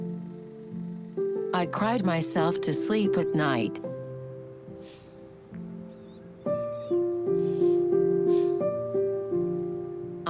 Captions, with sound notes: I cried myself to sleep at night. - (SNIFFLES)